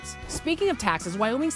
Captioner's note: text whooshing